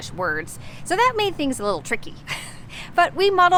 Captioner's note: chuckling